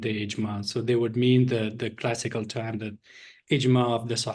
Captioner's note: non english speech